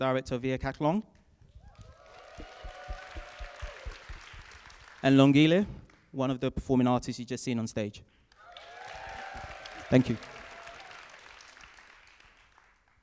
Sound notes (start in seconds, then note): 1.6 cheering and applause from audience; 8.3 cheering and applause from audience; 11.4 applause